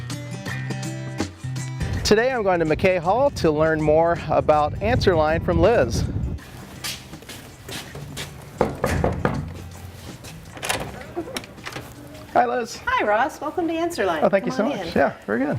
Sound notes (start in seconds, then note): 8.5 knocking on door; 10.4 door opening